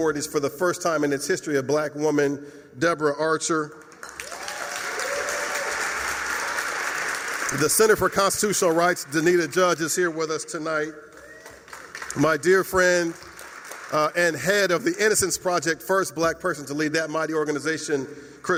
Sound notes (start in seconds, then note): 3.7 applause